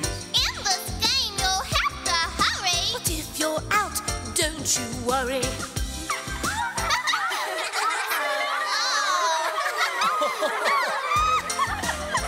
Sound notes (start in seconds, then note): 6.1 Oops-A-Daisy giggles; 9.6 everyone laughs; 12.0 cheerful music